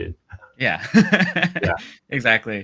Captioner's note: laughs